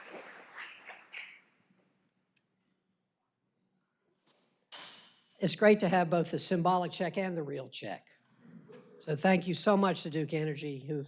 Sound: applause

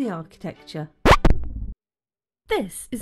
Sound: record scratch

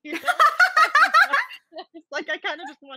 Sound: laughing

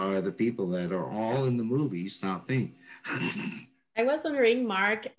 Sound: laughs

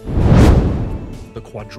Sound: fireball roars past

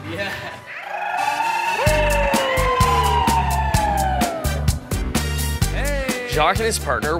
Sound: wooing and making noises of encouragement

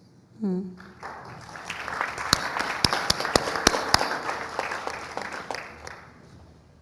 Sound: applause

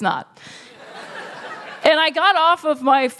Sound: laughter

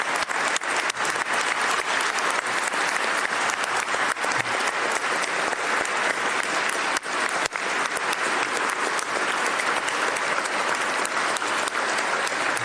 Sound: applause

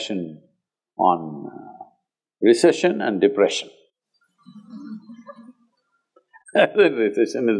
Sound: chuckles

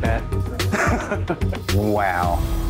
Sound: laughs

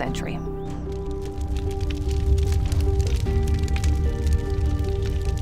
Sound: crackling fire

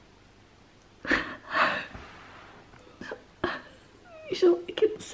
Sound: sniffling

